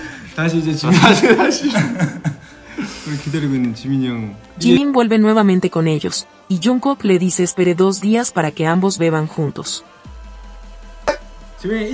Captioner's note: laughs